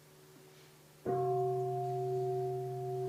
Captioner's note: bell